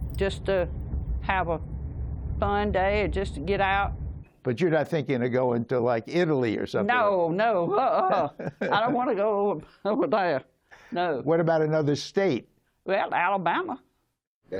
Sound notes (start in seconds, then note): 7.7 laughter